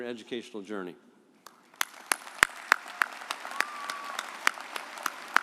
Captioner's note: audience applauding